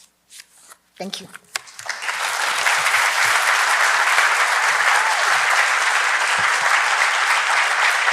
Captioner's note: audience applause